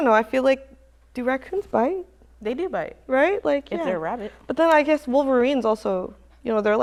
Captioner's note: none